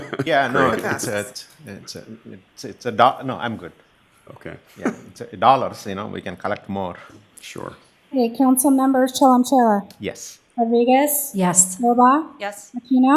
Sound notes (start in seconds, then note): 4.8 laughter